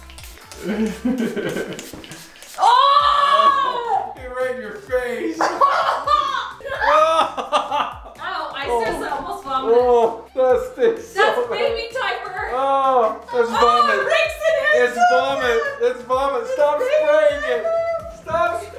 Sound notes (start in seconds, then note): 0.6 giggles; 2.5 yells; 5.7 coughing